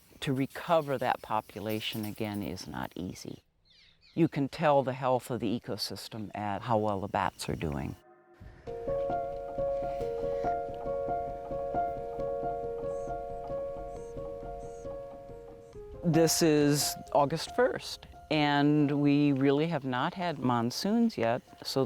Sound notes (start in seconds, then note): 9.5 slow, soft piano music; 14.1 bird chirping